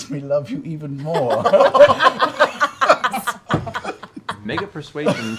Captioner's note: laughter